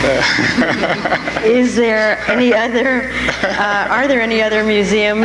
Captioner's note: I.M. laughs